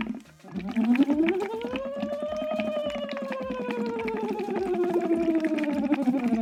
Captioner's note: water bubbling through straw; humming